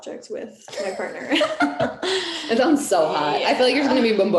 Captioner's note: laughing